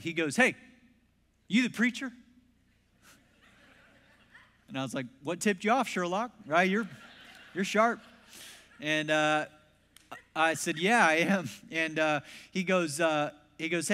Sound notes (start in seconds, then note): 3.1 congregation laughs; 6.5 congregation laughs